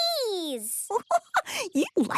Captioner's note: giggling